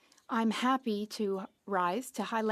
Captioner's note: speaking French